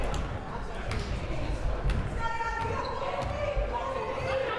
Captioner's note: crowd murmuring